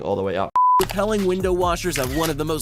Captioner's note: screen beeps